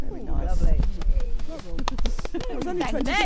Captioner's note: group chattering; group applauds and chatters